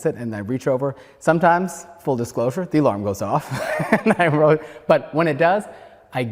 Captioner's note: laughter